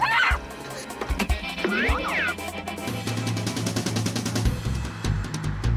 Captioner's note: shouts; cartoonish boinging